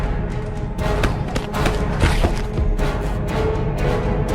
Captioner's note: fighting sounds